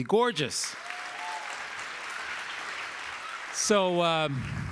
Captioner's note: audience applauding